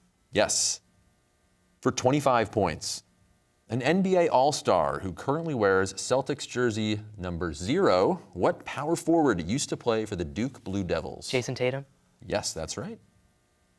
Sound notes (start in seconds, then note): none